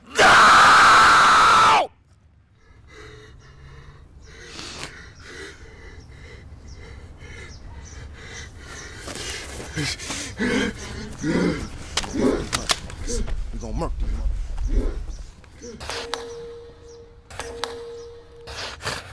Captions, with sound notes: (screams) - We're gonna murk those motherfuckers. We gon' murk them. (warped TV channel flipping)